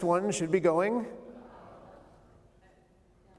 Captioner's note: crowd